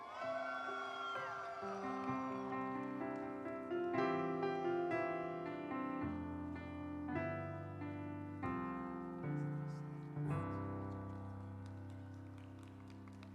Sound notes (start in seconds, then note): 0.0 audience cheering; 0.6 instrumental music